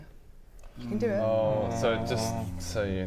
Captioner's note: anxious groan